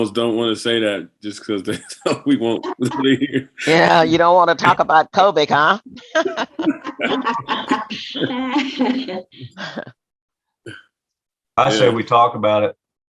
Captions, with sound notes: - Now I almost don't want to say that, just because we (speaking faintly). - Yeah, you don't want to talk about COVID, huh? (laughing) - I say we talk about it.